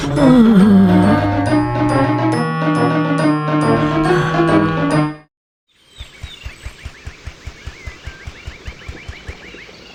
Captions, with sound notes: [Piglet sighs in depression, for he cannot afford a brave face] great, I have to get more COOKIES